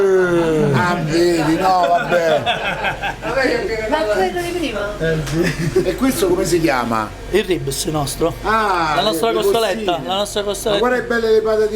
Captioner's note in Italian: Risate